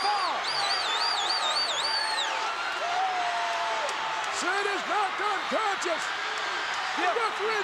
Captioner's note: applause